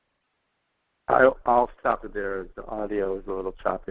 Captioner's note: voiceover